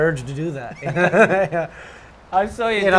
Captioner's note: laughs